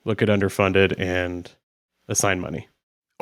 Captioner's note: none